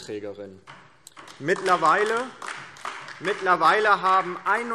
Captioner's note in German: Beifall DIE LINKE und vereinzelt SPD und BÜNDNIS 90/DIE GRÜNEN